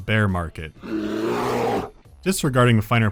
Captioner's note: bear growl